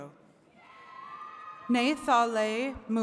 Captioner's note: attendees cheering